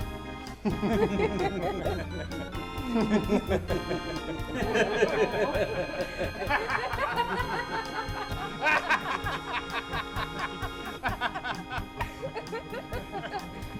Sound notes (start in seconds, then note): 0.3 they laugh; 2.8 they laugh again; 4.5 they laugh thrice; 6.2 they laugh a fourth time; 8.5 they laugh some more; 13.5 the laughter dies down